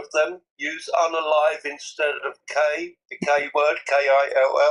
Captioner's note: ketawa